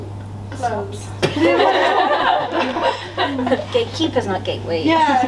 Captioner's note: laughter from audience